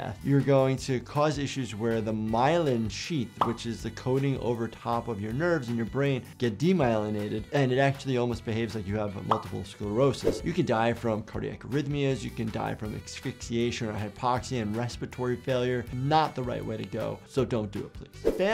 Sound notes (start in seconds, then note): none